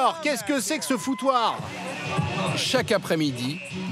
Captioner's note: hollers